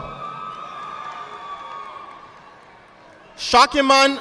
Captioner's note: audience applauding